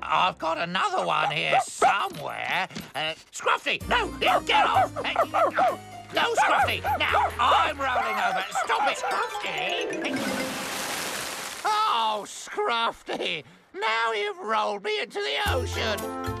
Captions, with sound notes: I'VE GOT ANOTHER ONE HERE SOMEWHERE. SCRUFFTY, NO! GET OFF! NO, SCRUFFTY! NOW I'M ROLLING OVER! STOP IT, SCRUFFTY! ( Splash! ) OH, SCRUFFTY! NOW YOU'VE ROLLED ME INTO THE OCEAN.